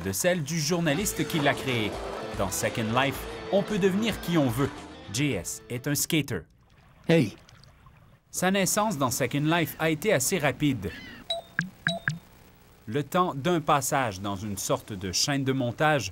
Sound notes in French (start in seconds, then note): 11.2 bips